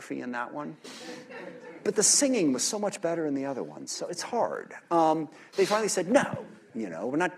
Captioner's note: laughter